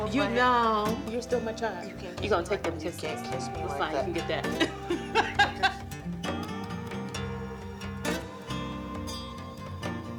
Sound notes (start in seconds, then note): 4.4 Beverly laughs